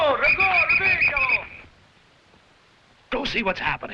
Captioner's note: officers shouting in foreign language; whistle blowing